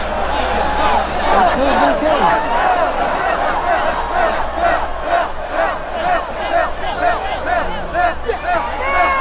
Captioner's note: crowd chanting